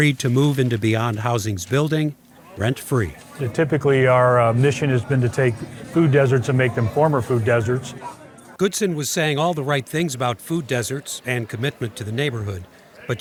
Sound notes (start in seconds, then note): 8.0 people chattering